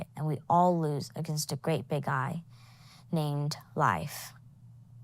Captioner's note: none